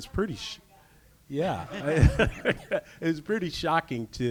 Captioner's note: laughs